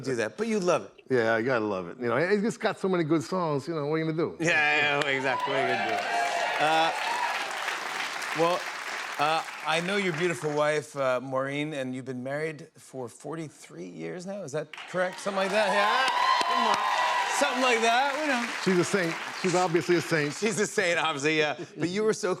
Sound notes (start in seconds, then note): 4.6 cheers and applause; 17.2 cheers and applause